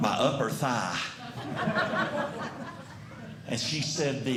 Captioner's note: audience Laughing